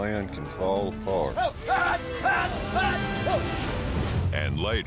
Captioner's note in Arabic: صراخ